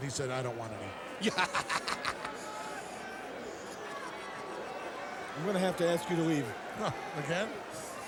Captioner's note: laugh